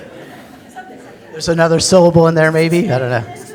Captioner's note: pat